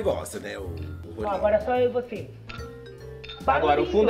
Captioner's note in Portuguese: tilintar de taças